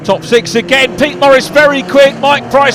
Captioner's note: engines roaring